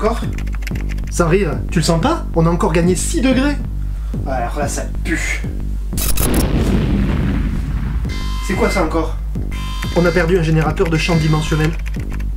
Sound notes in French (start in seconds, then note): 6.0 BOUM - alarme retentit